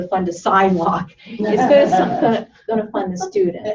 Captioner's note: laughter